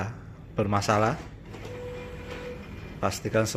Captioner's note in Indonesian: suara mesin printer